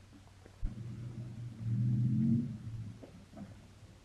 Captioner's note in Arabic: هدير المحرك